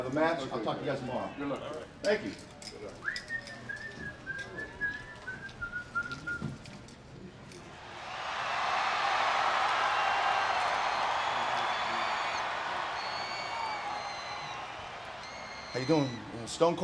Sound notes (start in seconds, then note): 3.0 Kurt whistling; 8.0 audience cheering